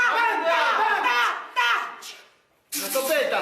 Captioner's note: video crew member speaks in foreign language